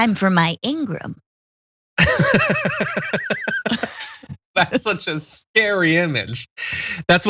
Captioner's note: laugh